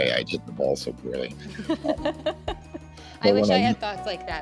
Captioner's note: laughs